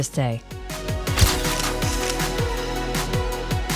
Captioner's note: camera Flashes